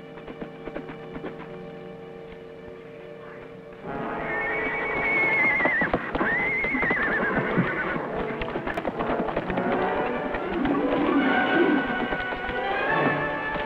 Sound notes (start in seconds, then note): 3.9 horse neighs; 10.7 intense music